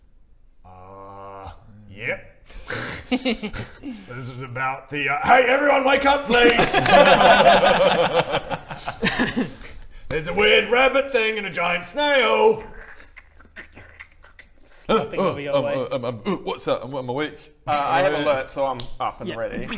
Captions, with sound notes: Errrrrrrr yep Heeheeheehee This was about the...HEY EVERYONE WAKE UP PLEASE! There's a weird rabbit thing and a giant snail *squelchy snail noises* - Uh...ugh...I'm I'm...what's that? I'm awake - Slurping over your way Uh I have alert so I'm up and ready